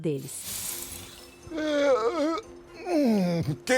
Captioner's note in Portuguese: Homem bocejando